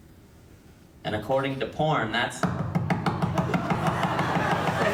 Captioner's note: bangs mic